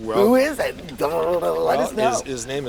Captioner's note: imitates drum rolling